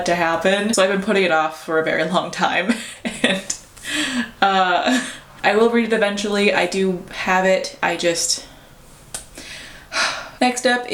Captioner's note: sigh